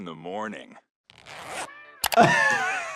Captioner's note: zipper clicking; laughing